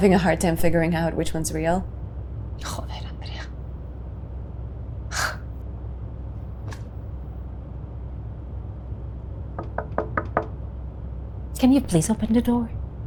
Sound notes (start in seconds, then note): 4.2 scoffs; 9.5 knock taps on door